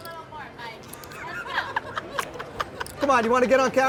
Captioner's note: soft laughter